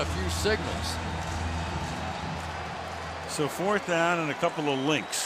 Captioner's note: cheering